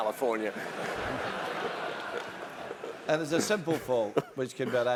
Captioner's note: laugh